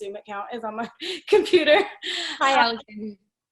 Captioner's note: laughs